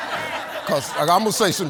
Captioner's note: audience laughs